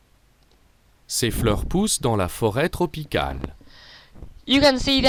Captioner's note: Rosetta Stone speaking